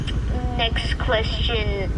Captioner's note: transition sound